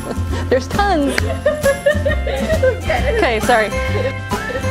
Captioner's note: laughing